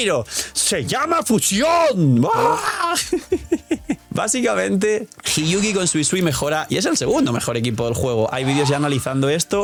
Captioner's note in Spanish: risas